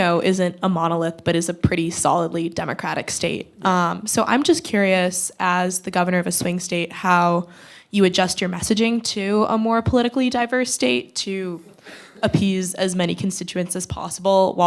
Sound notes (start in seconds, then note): none